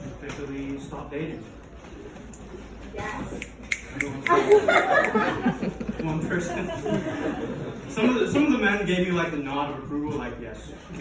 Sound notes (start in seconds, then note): 3.4 audience member snapping fingers; 4.0 laughing